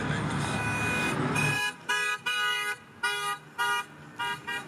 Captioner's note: honking